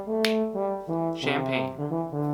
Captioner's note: snaps